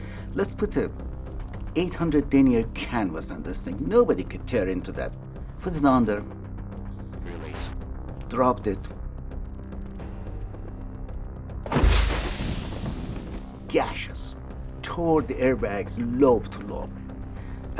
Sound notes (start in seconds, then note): 11.8 airbags gush